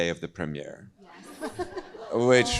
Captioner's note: group chuckles